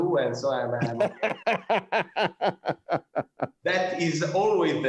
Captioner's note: laughter